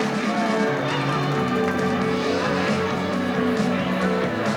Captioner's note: audience applauding; crowd cheering; upbeat music